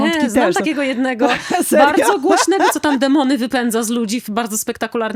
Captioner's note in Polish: śmiech